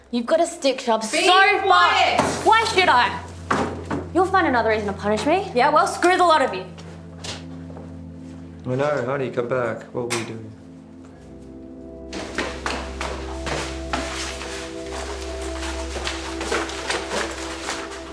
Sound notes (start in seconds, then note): 12.0 footsteps stepping; 12.5 somber music